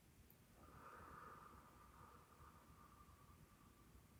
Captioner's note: exhales